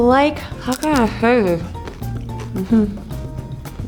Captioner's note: food crunching; Bruna chuckles